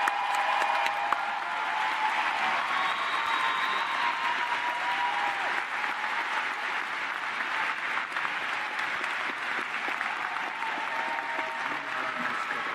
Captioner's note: cheers and applause